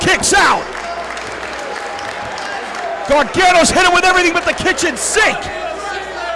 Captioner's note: applause